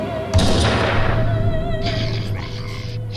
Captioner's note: demonic growling; gunshot booming; eerie music